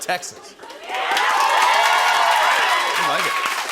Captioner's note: cheers and applause